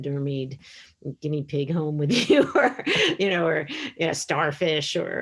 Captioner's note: laughs